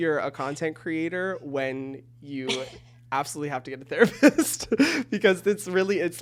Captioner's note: giggles